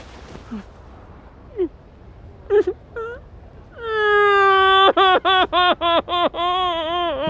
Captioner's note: crying, in a muffled voice